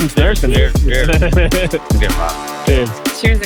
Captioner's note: person laughing